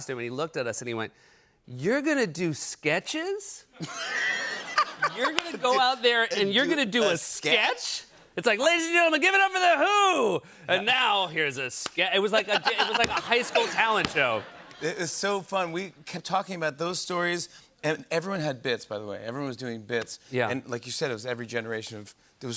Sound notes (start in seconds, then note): 3.7 laughter